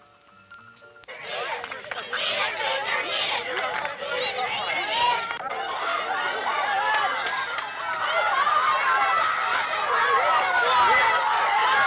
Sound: crowds cheering

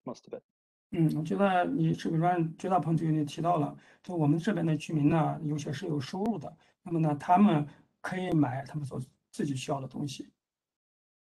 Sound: speaks in Mandarin

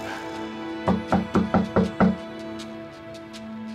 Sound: knocks on door

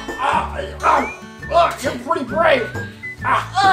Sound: groaning

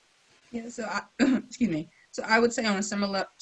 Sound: coughs

